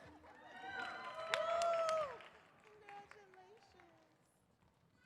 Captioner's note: audience cheers